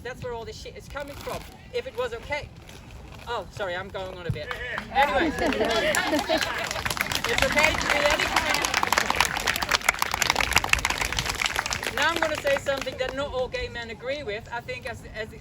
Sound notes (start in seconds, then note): 4.7 chuckles; 8.2 applause